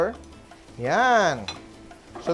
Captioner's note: sizzle